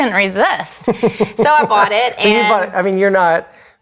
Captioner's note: laughs